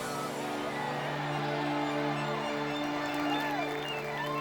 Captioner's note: cheering and claps at the background; upbeat music